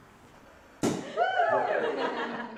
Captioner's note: cork popping; group laughing